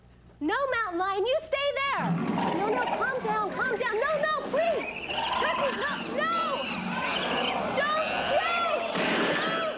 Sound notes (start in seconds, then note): 2.0 mountain lion growling; 5.5 turkey screaming